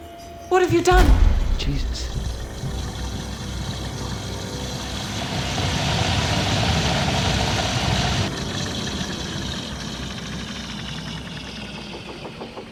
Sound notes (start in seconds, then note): 1.9 gurgling; 8.5 gurgling slows